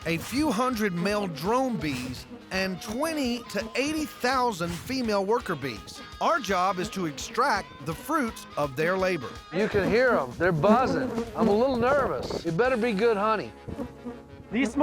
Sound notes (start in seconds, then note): 9.6 bees buzzing